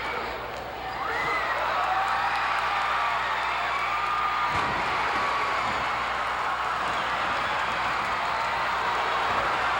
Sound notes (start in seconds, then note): 0.8 audience cheering continues; 4.5 floor banging